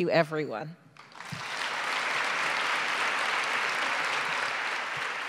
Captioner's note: audience clapping